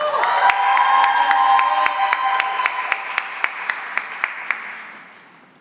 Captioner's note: cheering and applause